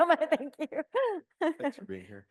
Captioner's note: laughs